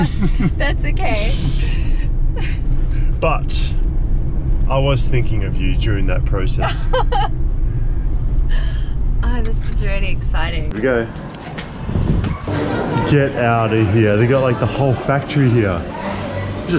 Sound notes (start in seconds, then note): 0.0 laughing; 6.6 laughing